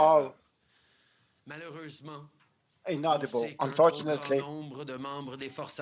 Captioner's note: speaking french